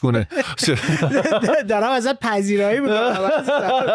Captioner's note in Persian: خنده